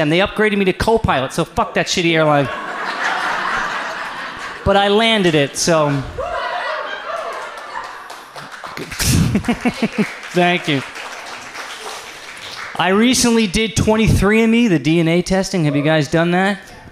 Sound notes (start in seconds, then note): 2.8 audience laughs; 7.0 audience applauds